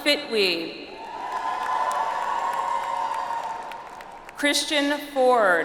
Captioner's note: audience applauds